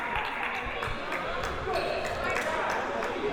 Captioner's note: clapping